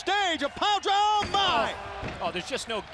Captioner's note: crowd chatter